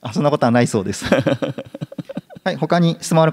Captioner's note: laughs